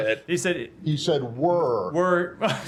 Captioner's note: laughter